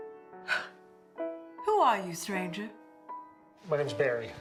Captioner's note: scoffs